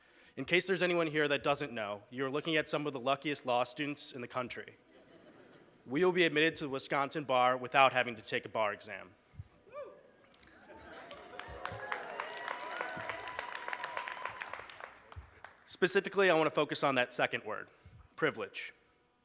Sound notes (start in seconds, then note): 10.4 laughter, applause